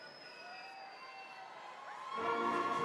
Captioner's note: audience cheering